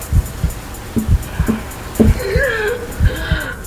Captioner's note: tapping